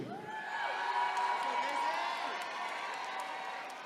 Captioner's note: attendees cheering